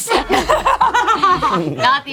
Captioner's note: group laughs